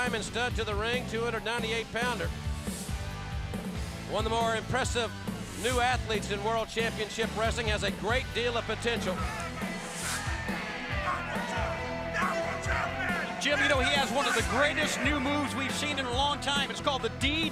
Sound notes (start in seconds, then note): 12.0 crowd chatter